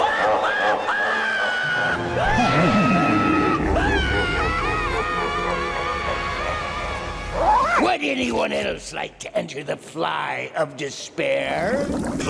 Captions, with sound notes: [deep evil laughter] [screaming fades away] Would anyone else like to enter the fly of despair?